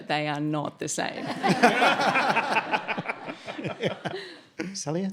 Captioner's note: audience laughs